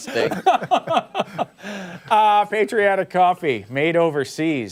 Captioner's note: laughter